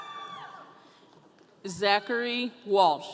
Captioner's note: audience cheering